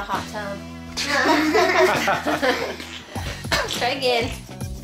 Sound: laughter

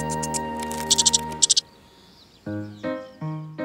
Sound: squirrel noises; bouncy piano music

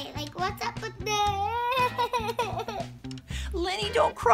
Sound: crying

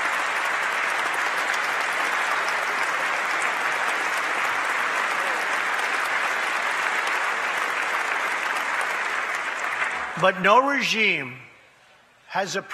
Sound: applause

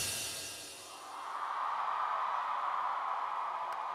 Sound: cheering

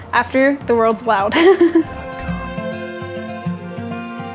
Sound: chuckles

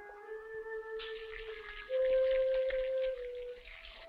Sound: sizzling

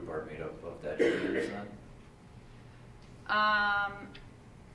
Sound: coughing drowns out speaker

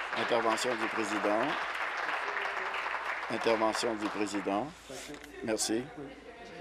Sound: applause

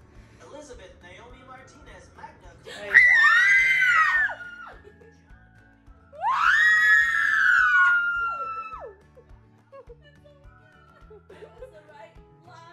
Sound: screaming

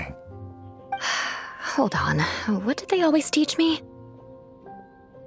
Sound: sigh

